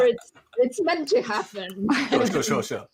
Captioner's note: laughing continues